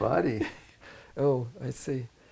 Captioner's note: laughs